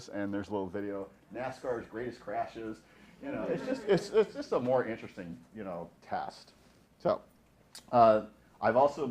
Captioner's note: laughing